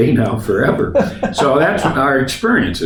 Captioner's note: laughs